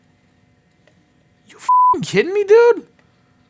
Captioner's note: beeping